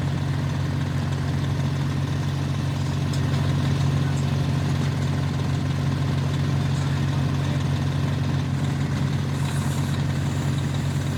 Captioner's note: engine noise